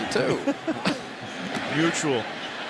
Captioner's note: laughter